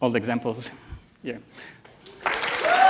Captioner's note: cheers and applause